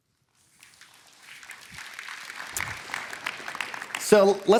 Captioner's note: applause